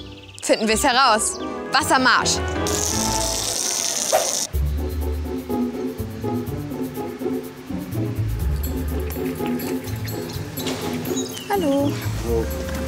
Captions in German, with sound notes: Finden wir's heraus. Wasser marsch! (Rauschen) (Gemächliche Musik) Hallo. - Hallo.